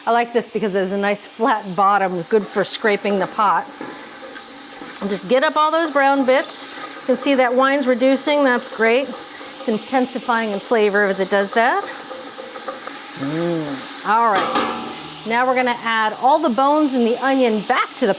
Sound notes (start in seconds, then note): 12.0 spoon thumping